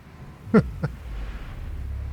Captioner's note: laughs